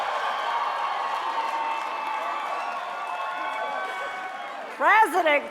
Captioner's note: cheers and applause